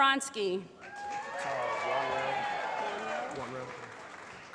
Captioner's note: applause